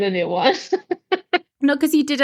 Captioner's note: laughing